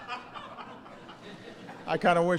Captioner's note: laughter